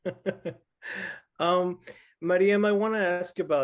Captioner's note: chuckles